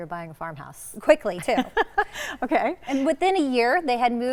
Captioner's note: laughs